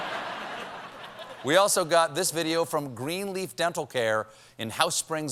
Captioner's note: laughter